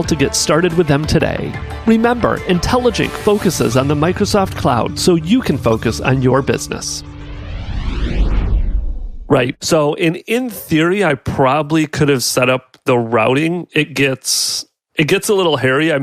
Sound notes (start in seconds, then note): 7.0 air whooshing